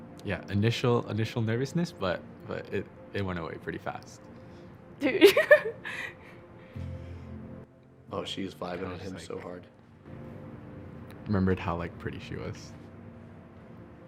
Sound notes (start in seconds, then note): 5.2 laughing